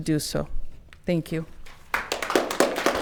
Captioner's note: audience clapping